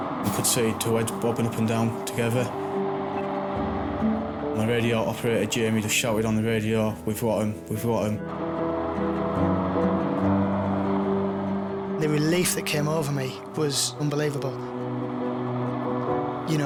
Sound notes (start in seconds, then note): 2.7 intense music; 8.3 helicopter whirls; 8.4 lighthearted music; 14.5 helicopter whirls; 14.6 lighthearted music